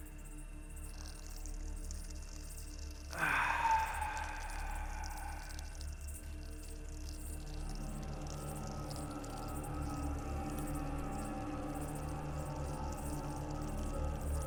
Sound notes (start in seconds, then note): 0.8 urine pattering on ground; 3.1 Dana sighs; 6.9 urine pattering